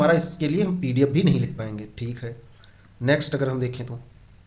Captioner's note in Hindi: गला साफ़ करने की आवाज़